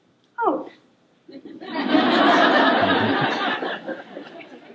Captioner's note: laughter